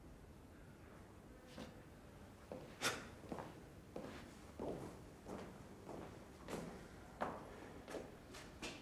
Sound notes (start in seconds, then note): 1.1 footsteps